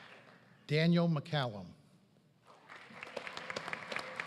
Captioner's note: applause